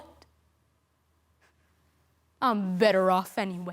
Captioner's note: soft sharp breaths